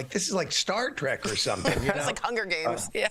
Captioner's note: laughter